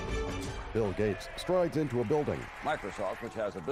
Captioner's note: cheers and applause